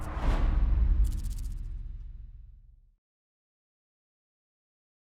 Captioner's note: whoosh